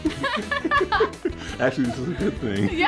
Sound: both laugh

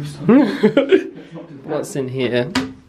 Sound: laughs

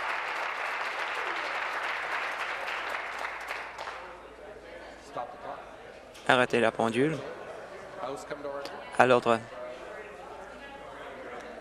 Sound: applause

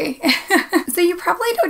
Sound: laughs

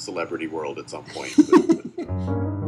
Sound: laughter

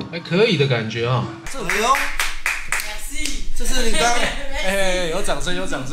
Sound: applause, Applause

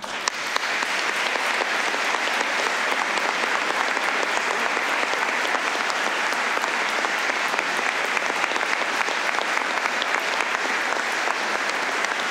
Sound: applause

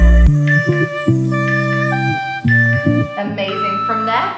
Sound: timer beeping

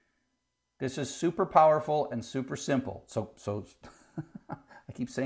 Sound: laugh

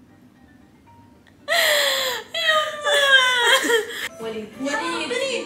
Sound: gasps

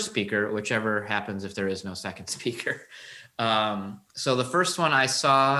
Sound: chuckles

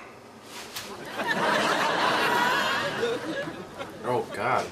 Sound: audience laughs

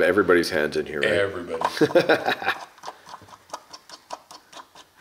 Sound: laughs

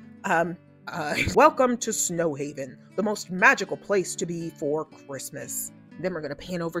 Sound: narrator voice

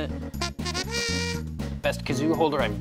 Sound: tooting

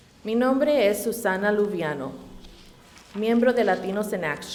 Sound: reading in Spanish

